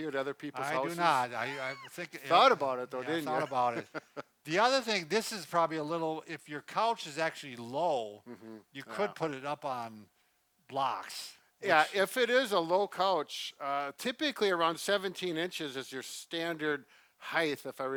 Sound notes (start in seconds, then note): 3.0 chuckles